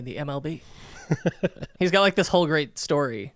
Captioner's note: laughing